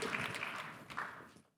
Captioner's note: applause